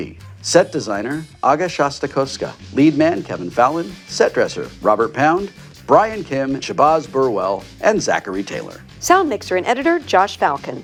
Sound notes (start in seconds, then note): none